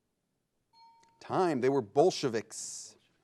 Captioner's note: bell chimes